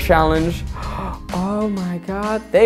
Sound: gasp

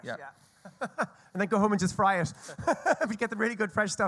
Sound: laughs

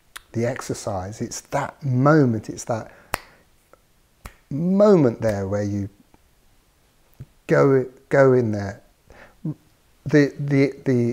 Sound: snaps fingers

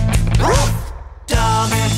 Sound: dog bark

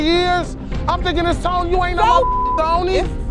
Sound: beep

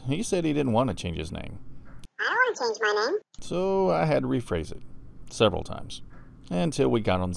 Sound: man's voice

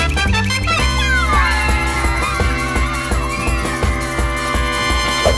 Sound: cheering

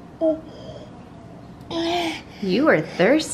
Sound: sighs

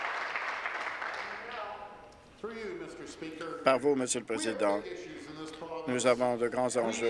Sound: applause

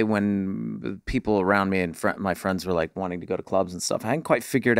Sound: none

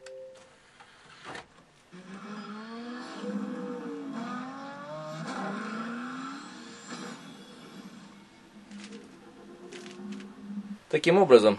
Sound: the sound of the game is heard

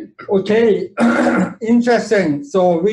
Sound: coughs

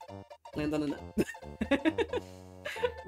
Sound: laughs

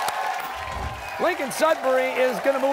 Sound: cheers and applause

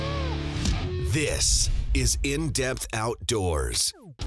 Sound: voiceover

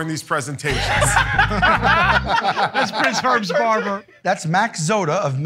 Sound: laughter

